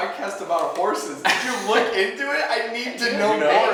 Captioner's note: laughing